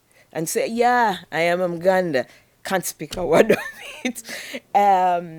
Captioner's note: chuckles